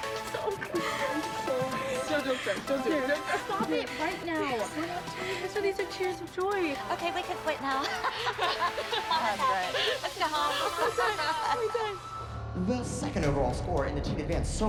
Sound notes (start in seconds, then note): 6.8 laughs; 10.4 laughter